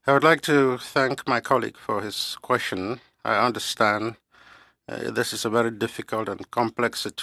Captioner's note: speaking French